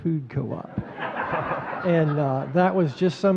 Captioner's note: audience laughing